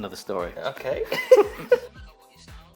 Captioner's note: both laughing